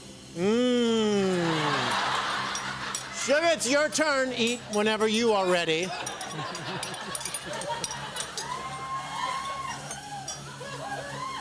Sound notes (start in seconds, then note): 1.4 laughter; 5.9 laughter; 8.0 cheering